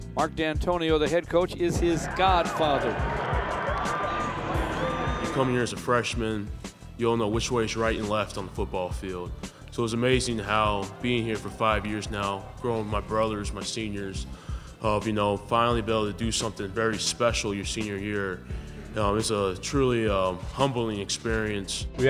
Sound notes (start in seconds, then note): 3.6 crowd cheering